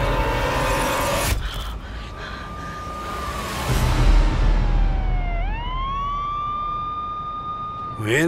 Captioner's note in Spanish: Sirenas